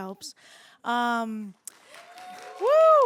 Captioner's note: audience cheers